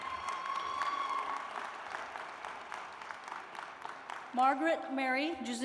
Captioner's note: cheers and applause